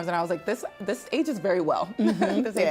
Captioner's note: laughs